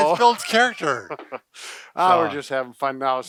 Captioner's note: both chuckle